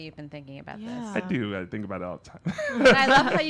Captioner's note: laughs